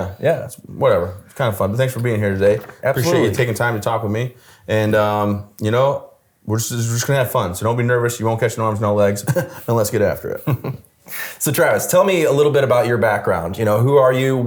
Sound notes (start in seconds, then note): 9.2 chuckles drily; 10.3 chuckles